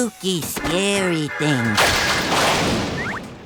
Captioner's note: lightning crashes